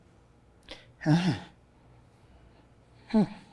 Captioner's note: sighs